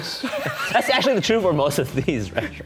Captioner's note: laughing